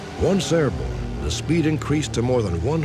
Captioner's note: none